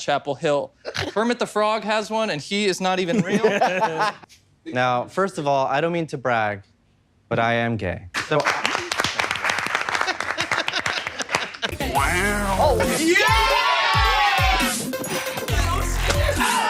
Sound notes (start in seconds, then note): 3.1 room laughs; 8.2 rapturous applause; 10.4 party music plays